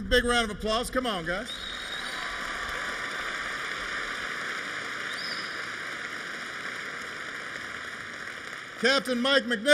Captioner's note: applause